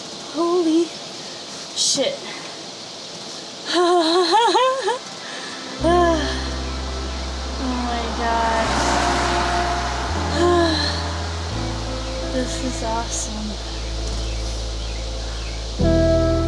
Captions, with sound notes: Holy. Shit. [Laughs like a weird little freak] Oh my god. This is awesome.